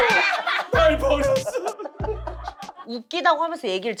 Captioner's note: sobs